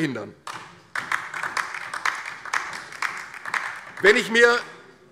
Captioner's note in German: Beifall DIE LINKE